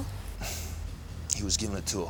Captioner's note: John sighs